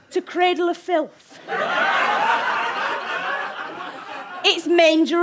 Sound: audience laughter

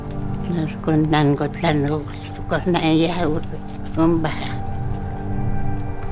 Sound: speaks other language: English translation on screen

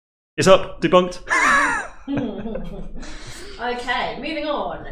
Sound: laughing

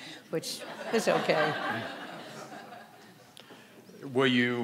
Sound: audience laughing

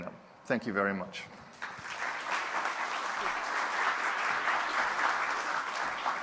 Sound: applause

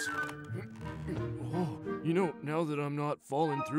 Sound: straining

